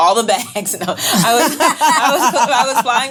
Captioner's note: laughing